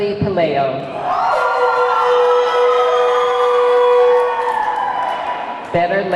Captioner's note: audience clamoring; horn blaring